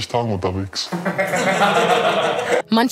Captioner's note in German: Gelächter